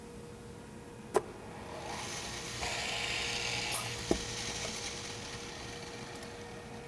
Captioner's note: thunk, drill bits whirring